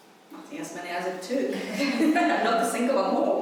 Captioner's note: laughing